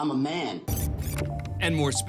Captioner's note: computer beeps